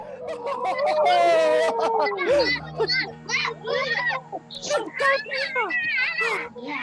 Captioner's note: laughing